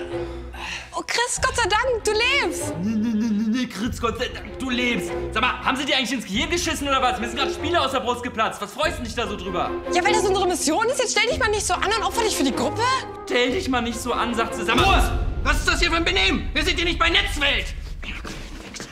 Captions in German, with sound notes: Oh, Chris, Gott sei Dank, du lebst! (verächtlich:) Nhh-nhh, Gott sei Dank, du lebst. Haben sie dir ins Hirn geschissen? Mir sind Spiele aus der Brust geplatzt, freut dich das? Stell dich nicht so an, opfere dich für die Gruppe. Stell dich nicht so an, sagt sie. - Ruhe! Was ist das für ein Benehmen? Wir sind nicht bei Netzwelt!